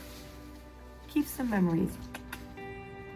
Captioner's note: kiss kiss